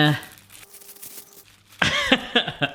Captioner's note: rustling; laughing